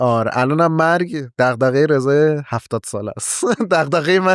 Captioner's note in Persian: خنده